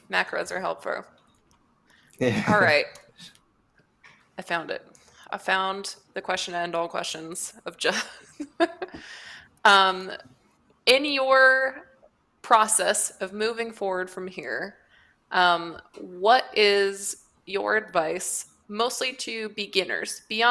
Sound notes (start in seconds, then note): 8.1 laughs